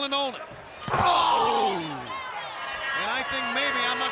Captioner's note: savage screams